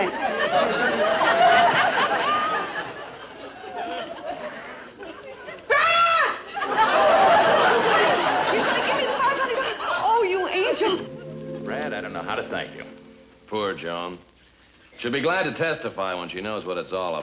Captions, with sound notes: (audience laughing) (Joan screaming) (audience laughing) Honey, you're gonna give me the $500? Oh, you angel! - Brad, I don't know how to thank you. - Poor Joan. She'll be glad to testify when she knows what it's all about,